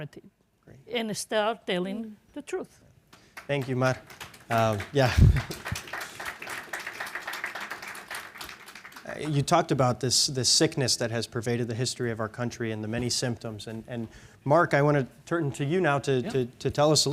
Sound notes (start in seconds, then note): 5.0 chuckles; 5.7 audience applauding